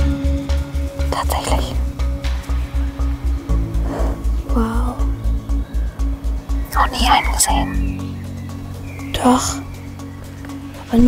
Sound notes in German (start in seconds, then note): 6.0 flüsternd